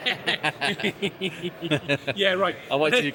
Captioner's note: laughs